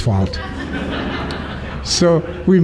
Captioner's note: laughter